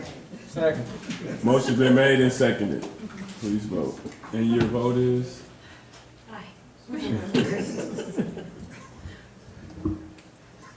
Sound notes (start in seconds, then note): 7.0 all chuckling